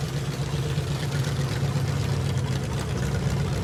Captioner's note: engine running noisily